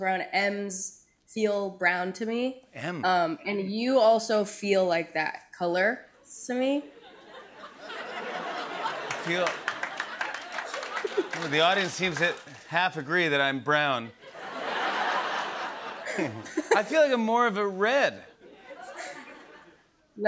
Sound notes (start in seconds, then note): 6.9 laughter; 8.8 scattered applause; 14.2 laughter